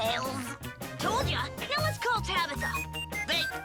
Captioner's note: phone beeping